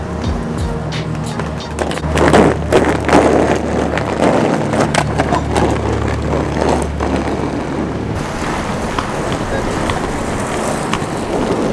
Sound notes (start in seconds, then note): 1.6 hard wheels against pavement